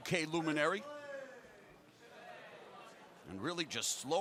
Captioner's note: crowd cheering